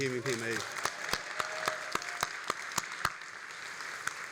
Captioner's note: all applauding